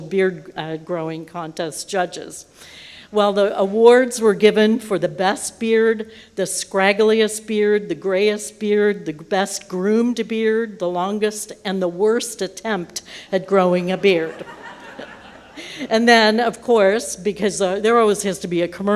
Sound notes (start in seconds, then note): 13.8 laughter